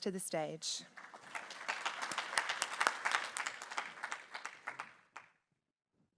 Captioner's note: applause